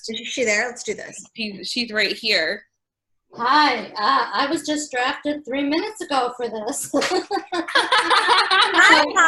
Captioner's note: laughter